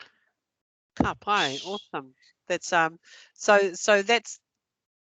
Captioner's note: non-english